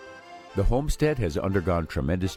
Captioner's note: voiceover